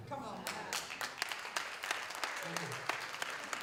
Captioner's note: applause